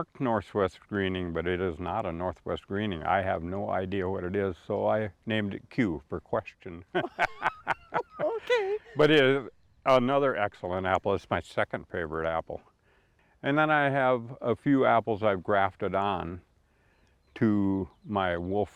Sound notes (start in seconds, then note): 6.9 laugh